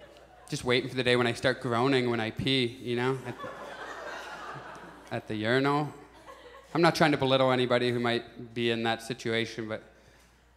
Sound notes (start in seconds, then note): 3.1 audience laughs